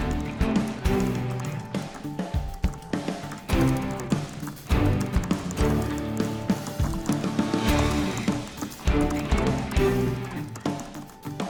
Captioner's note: typing